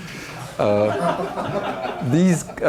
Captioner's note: laughter